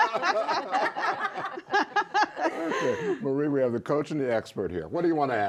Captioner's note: laughter